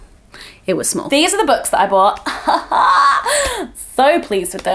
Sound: laughing

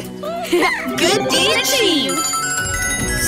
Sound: bell ringing

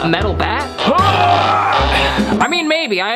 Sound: grunting sound

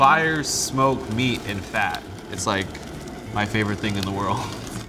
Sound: none

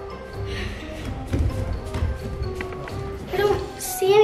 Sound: feet thudding

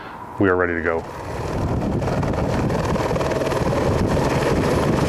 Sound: helicopter whirring

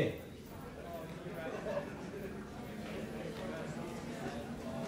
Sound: students chattering

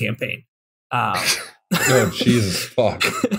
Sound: laughter

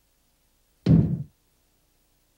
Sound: thud

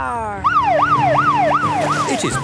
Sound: siren wailing

